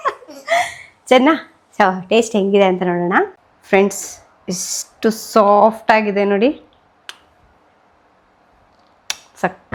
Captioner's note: laughs